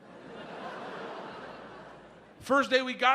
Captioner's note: audience laughs